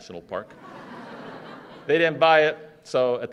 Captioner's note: laughter